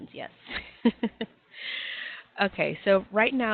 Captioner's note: laughing